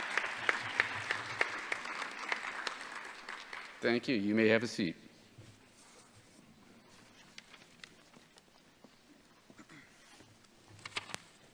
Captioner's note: applause; cheers